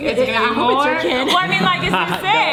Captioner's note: laughing